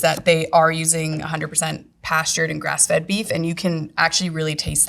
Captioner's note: none